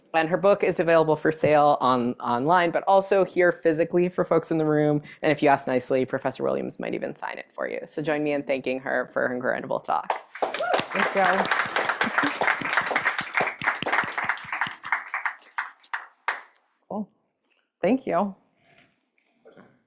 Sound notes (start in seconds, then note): 10.1 audience applauding